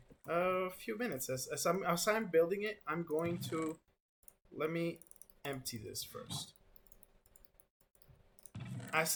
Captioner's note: click